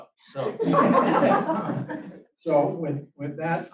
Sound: room Laughs

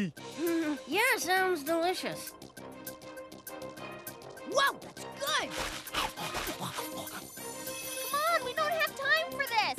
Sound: nervous laughing

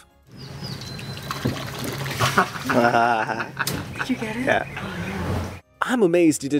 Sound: people laughing; water splashes

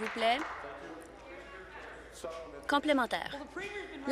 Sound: some Applause

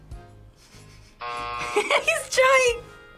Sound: buzzer

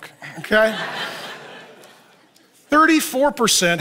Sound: audience laughs

